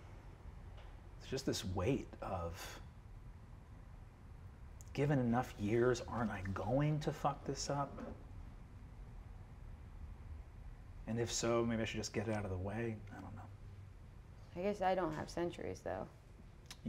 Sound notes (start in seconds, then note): none